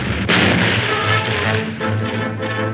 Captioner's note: boom; dramatic music